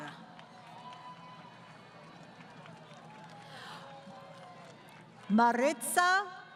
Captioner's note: crowd Cheering